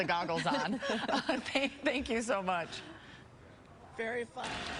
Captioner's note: laughter